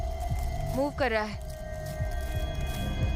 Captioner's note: rustling